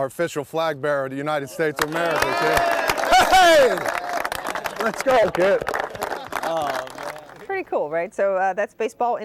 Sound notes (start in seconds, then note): 1.7 applause